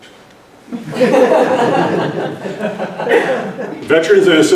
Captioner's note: laughter